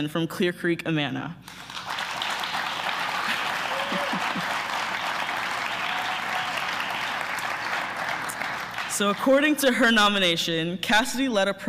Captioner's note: applause